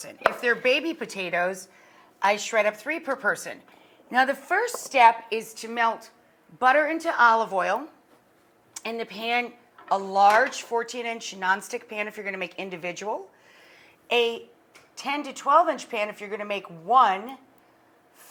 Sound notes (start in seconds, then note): none